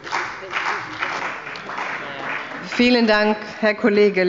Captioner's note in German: Beifall bei der CDU und dem BÜNDNIS 90/DIE GRÜNEN